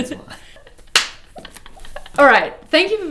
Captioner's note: hands slapping